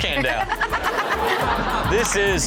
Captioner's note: laughs